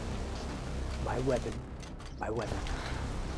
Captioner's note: speaking Slavic language